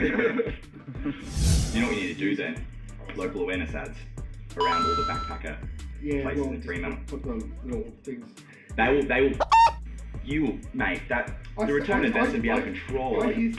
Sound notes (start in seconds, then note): 0.0 laughter; 4.6 ding; 9.4 beep